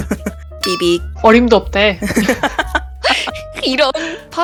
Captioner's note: laugh